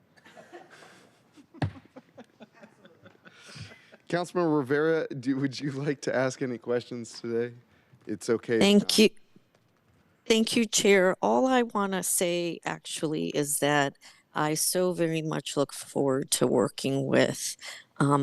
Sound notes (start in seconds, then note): 5.4 laughter